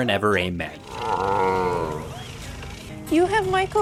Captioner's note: dinosaur grumbles